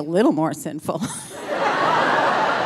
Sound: laughing; audience laughing

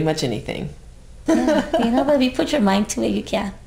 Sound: laughs

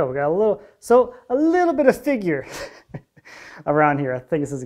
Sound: chuckles

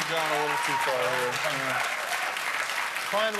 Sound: cheers and applause

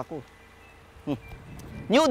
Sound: scoffs

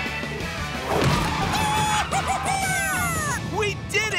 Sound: squawking

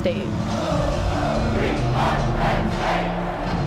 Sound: chanting

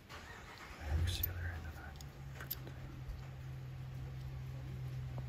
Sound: car engine revving

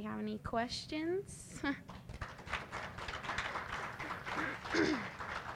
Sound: applause

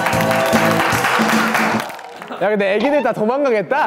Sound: applauds at a great performance

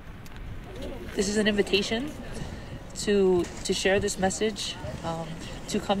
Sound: distant, overlapping chatter

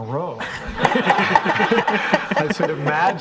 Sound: all laughing

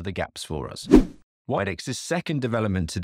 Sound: swooping transition

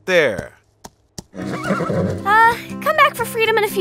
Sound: horse neighing

